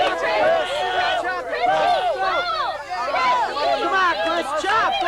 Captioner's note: cheering